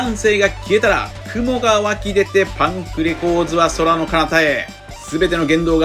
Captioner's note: laughs